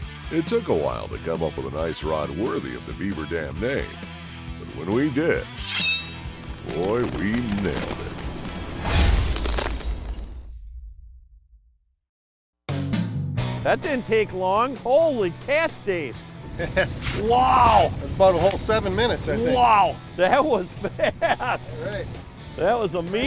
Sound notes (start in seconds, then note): 9.0 ice shattering; 12.7 upbeat country music; 16.5 chuckling